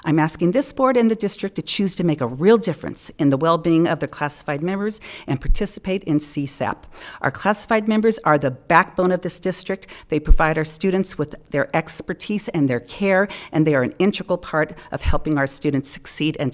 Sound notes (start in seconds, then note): none